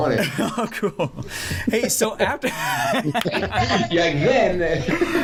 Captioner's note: laughter